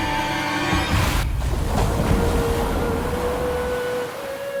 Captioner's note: waves rumbling